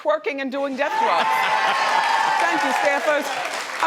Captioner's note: audience cheering; man laughs